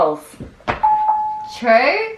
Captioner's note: Google Assistant beeping